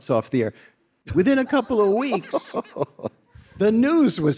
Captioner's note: Jon laughing